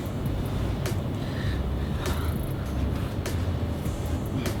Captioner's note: heavy breathing